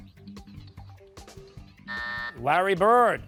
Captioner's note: buzzer